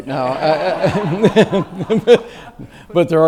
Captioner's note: audience laughs